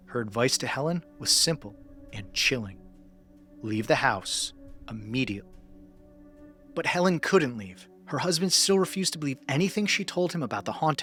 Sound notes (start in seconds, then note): 3.2 short pause